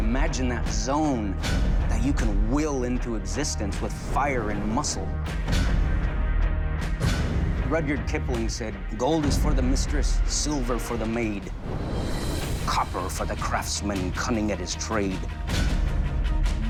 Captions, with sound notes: Imagine that zone that you can will into existence with fire and muscle. [pounding] Rudyard Kipling said, "Gold is for mistress, "silver for the maid. [fire roaring] "Copper for the craftsman, cunning at his trade. [pounding]